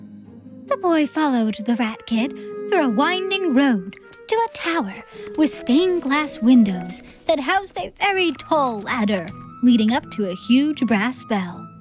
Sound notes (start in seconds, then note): none